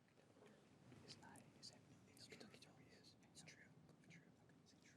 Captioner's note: contestants whispering